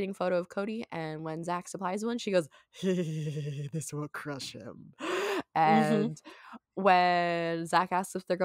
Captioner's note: mhmm